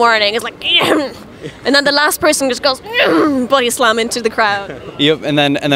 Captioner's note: groan; groans